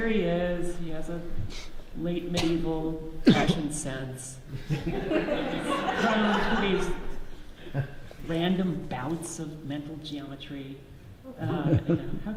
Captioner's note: audience laughs